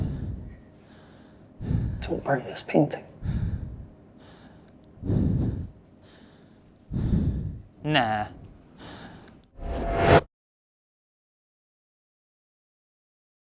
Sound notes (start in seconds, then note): none